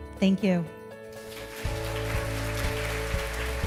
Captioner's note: applause; gentle instrumental music